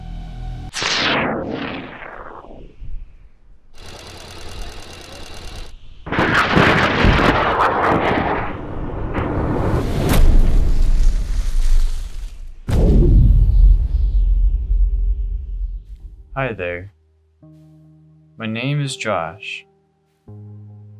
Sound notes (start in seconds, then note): 3.9 cranking; 3.9 rockets fire; 10.0 rockets crashing; 19.6 gentle music